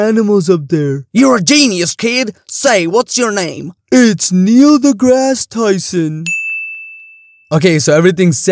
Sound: ding

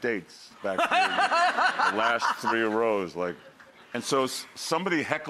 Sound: laughing

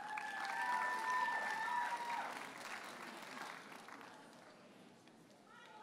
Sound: audience cheers and applauds

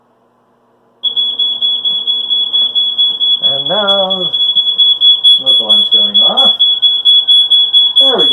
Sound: smoke alarm goes off

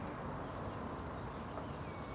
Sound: birds chirping

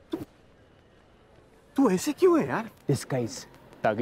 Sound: none

